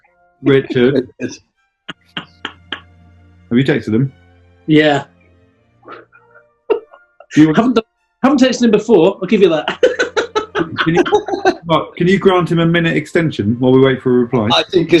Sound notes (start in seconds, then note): 0.5 cackling; 6.7 giggling; 10.1 laughing